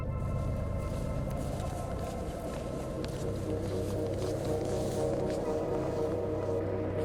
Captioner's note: ominosa de la música electrónica; huellas susurro